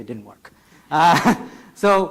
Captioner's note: speaker laughs